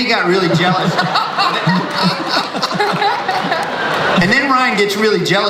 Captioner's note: audience laughs